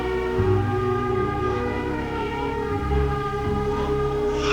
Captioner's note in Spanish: Lloros de bebe